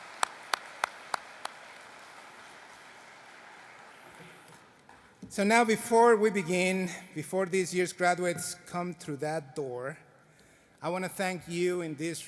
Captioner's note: applause